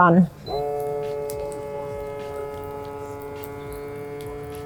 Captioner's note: sealer buzzing